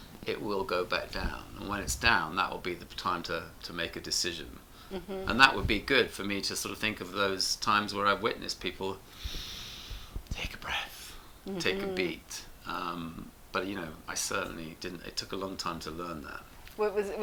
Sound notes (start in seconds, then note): 9.1 inhales deeply